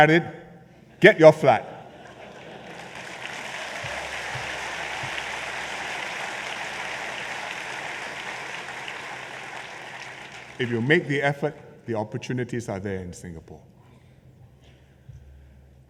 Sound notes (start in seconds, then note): 2.1 applause